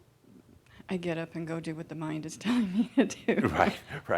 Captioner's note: she chuckles